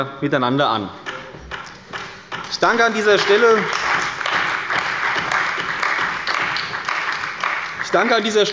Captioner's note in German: Beifall bei der CDU und dem BÜNDNIS 90/DIE GRÜNEN